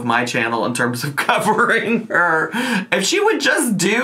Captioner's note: chuckles